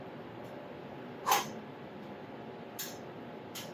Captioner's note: air blowing